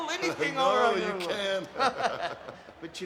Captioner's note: both laugh